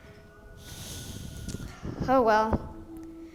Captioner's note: sighs